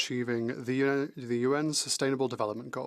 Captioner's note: speaking French